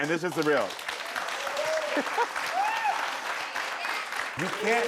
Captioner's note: crowd cheering